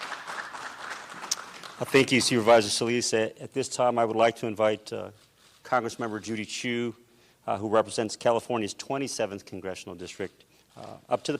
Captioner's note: applause